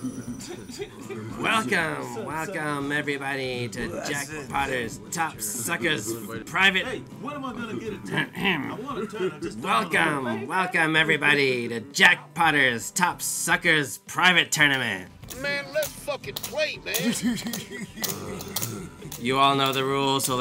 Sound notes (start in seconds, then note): 6.8 background chatter